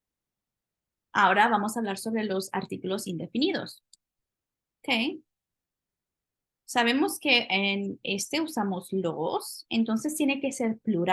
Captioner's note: spanish; speaking spanish